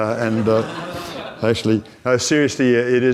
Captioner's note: audience laughs